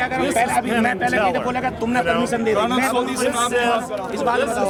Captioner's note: non-english speech